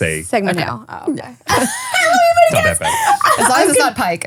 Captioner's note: laughing